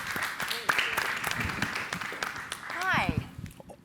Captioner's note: audience applauding